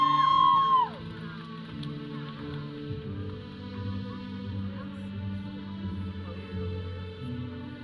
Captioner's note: audience cheering; processional music; audience chattering